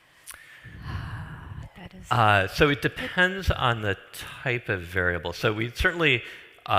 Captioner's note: sighs